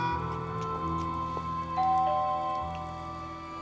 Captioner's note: doorbell rings